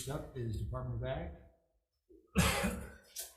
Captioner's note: Senator Mike Gabbard coughing